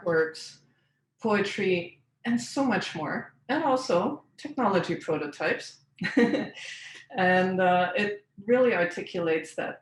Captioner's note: laughs